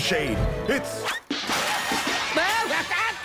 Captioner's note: comedy sound effects